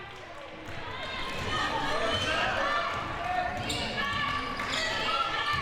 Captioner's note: audience chattering and yelling